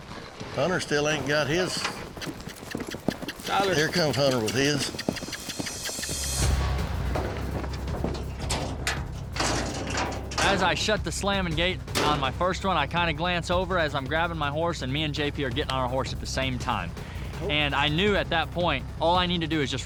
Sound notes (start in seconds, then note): 4.2 making squeaky sound; 8.1 clanking sound